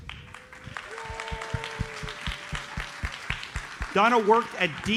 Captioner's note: audience cheers and applauds